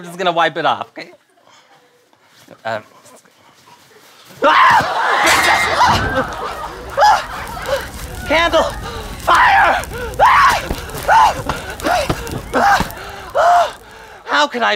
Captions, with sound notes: I'm just gonna wipe it off. Okay. Uh. Ahh! [fire crackling] Candle! Fire! [screaming]